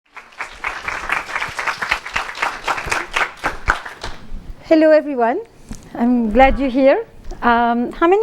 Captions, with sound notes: (applause) - Hello everyone, I'm glad you're here.